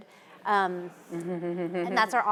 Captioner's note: audience laughing